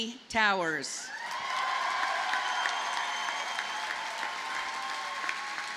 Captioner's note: audience cheers and applauds